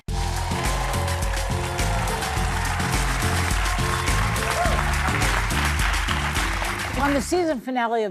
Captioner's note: applause